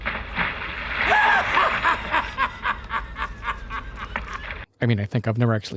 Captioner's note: hysterical Laughter